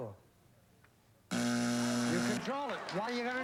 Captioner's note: buzzer